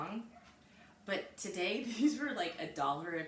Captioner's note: chuckles